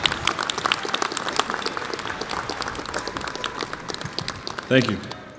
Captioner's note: applause